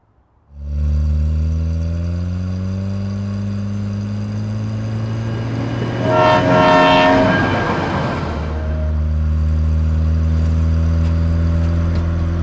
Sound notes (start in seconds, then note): 0.8 car engine roaring; 4.9 train honking; 9.0 car engine roaring